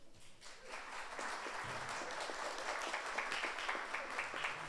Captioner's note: audience applauds